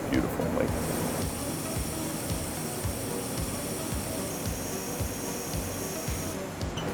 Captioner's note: upbeat music; faucet trickling